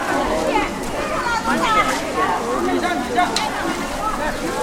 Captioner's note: chinese temple bustling